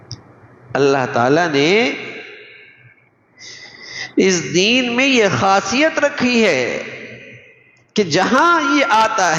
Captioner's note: sigh